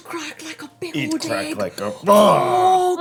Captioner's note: roar